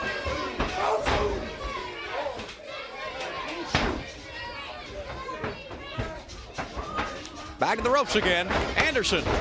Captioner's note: crowd cheering